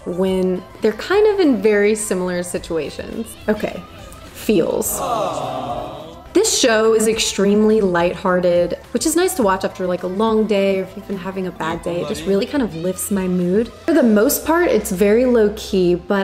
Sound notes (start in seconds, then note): 4.8 audience awing